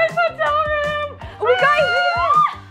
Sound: girl shrieking

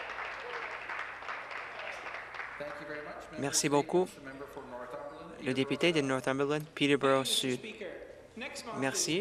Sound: some Applause

